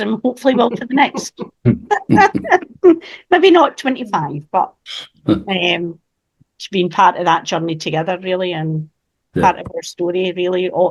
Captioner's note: laughs